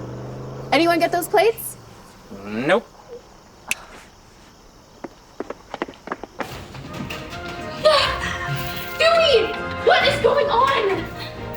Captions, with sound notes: Anyone get those plates? Nope. (snaps) Dewey! What is going on??